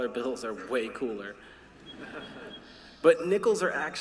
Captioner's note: laughter